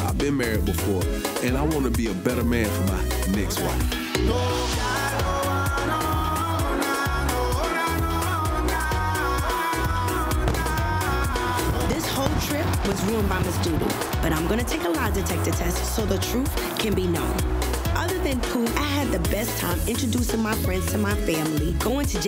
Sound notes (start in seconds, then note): 4.4 dance hall music continues; 10.2 fireworks exploding